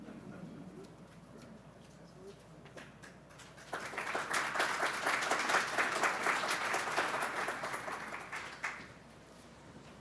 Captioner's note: applause